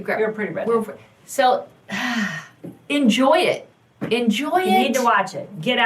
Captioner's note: sighs